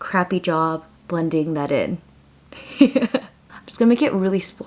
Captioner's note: laughs